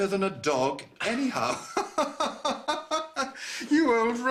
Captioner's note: laughter